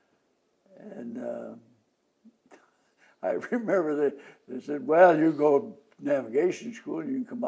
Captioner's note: laughs